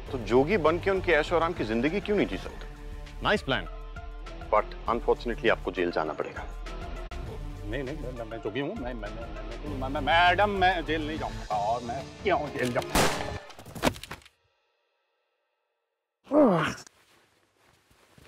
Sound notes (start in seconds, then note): 12.9 gun shot; 16.3 grunts